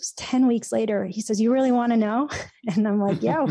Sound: chuckles

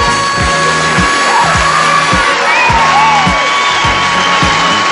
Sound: audience cheers

